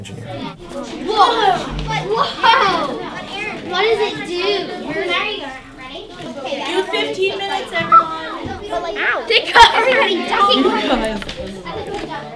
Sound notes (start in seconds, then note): 0.1 classroom noise; 2.1 student chatter; 4.1 classroom noise; 6.1 student chatter; 8.1 classroom noise; 10.1 student chatter; 12.1 classroom noise